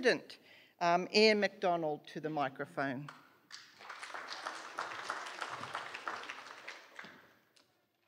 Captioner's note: applause